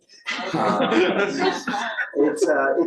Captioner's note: laughter